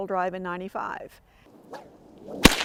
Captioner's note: whip crack